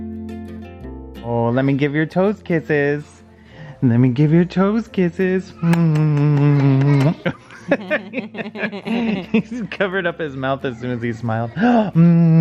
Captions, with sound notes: (soothing music plays) Oh, let me give your toes kisses. Let me give your toes kisses. (lips clicking) (both laugh) He just covered up his mouth as soon as he smiled.